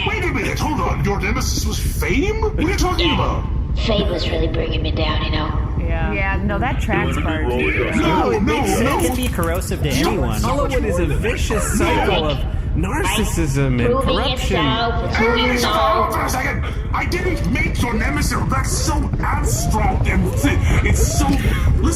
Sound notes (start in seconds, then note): 4.1 quietly; 9.1 trying to shout over everyone; 16.4 screaming